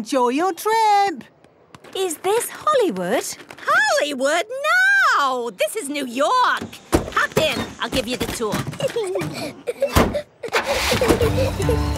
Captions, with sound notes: Enjoy your trip! - Is this Hollywood? - Hollywood? No! This is New York! Hop in! I'll give you the tour. (Peppa and George laughing)